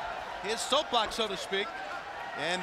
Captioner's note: crowd chatter